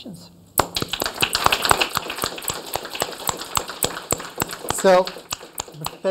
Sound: applause

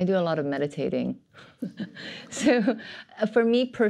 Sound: laughter

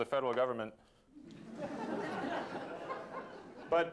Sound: laughter

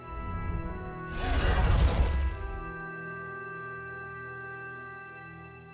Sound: crunching

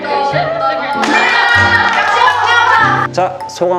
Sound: infinite applause!

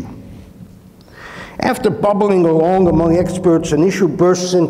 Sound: inhales

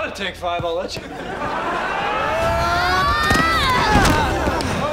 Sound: grunting

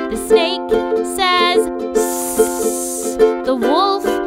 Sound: snake hissing

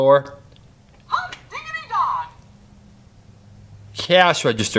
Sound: voiceover

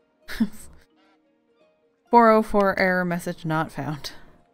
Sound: laugh

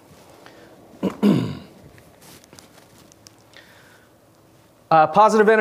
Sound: clears throat

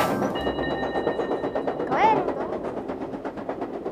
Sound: upbeat electronic music ends; train on tracks

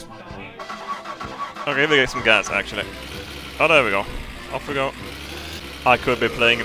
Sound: car starting

